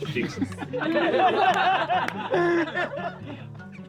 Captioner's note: laughing